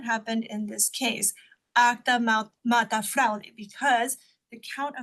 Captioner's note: speaks Spanish